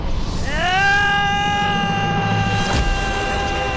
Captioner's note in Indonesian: berteriak